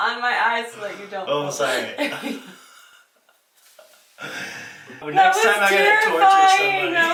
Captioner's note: laughs